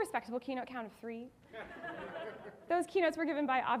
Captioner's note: audience laughing